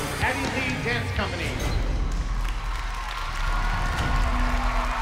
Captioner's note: cheering